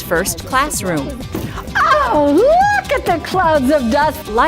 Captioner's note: rug being beaten